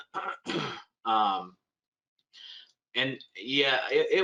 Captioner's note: clears throat